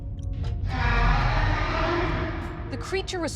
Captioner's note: roaring